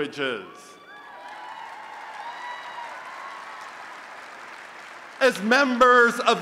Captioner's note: applause and Cheering